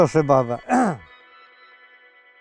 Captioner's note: coughs